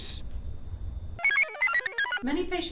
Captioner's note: computer chirps